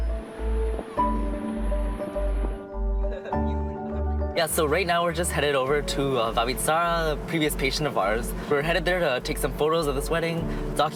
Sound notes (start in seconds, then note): 3.1 laughter